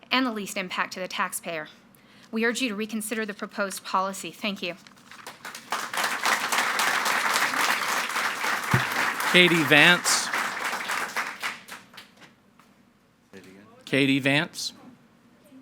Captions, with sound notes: and the least impact to the taxpayer. We urge you to reconsider the proposed policy. Thank you. (audience clapping) - Katie Vance. - Say it again. - Katie Vance.